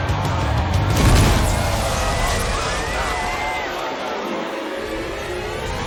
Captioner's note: crowd screaming